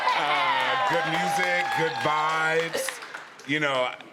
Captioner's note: applause